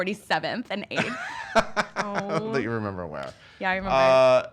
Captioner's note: laughs